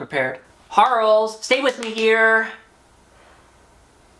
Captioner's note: rhythmically clapping